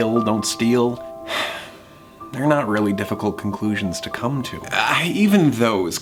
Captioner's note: sighs